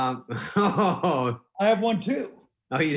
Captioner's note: laughing